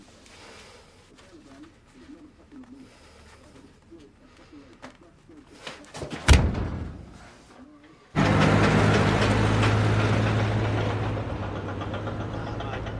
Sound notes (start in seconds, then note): 6.0 fist thudding; 8.1 engine rumbling